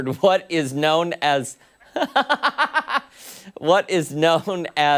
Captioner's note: laughter